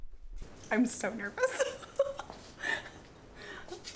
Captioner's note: laughs